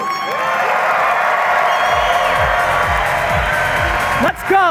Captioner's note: audience cheering and applauding